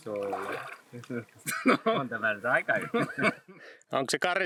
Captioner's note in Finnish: naurua